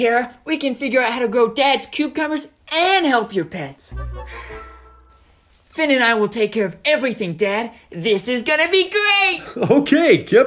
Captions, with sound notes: Don't worry, Kara we can figure out how to grow Dad's cubecumbers and help your pets. [Sigh] Finn and I will take care of everything Dad. This is gonna be great!